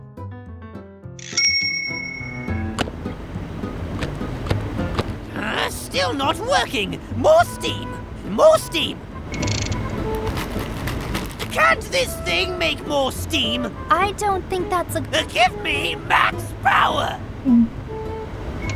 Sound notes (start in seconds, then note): 17.4 gulp